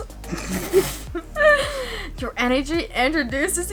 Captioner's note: laughing